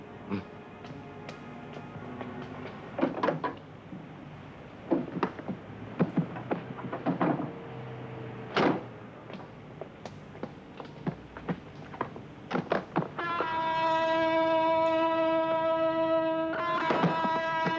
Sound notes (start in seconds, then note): 0.8 pattering footsteps; 3.0 door rattles; 9.2 pattering footsteps; 13.4 dramatic, suspenseful music